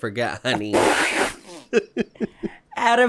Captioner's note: spluttering laughter; chuckles